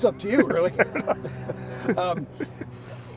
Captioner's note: chuckling